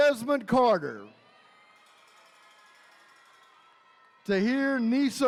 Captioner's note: attendees cheering